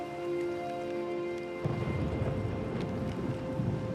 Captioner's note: thunder rumbles